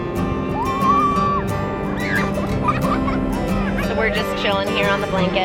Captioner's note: girls cheering happily